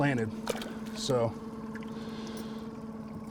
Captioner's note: fish splashing